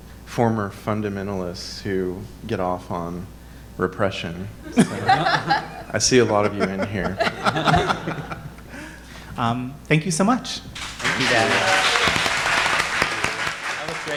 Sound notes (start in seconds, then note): 7.5 all laughing; 10.7 audience applauding